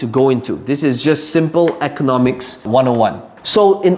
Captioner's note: tapping marker